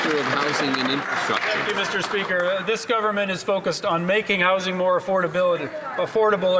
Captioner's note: some Applause